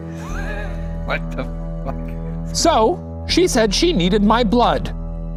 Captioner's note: laughs